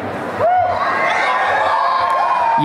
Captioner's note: applause and cheering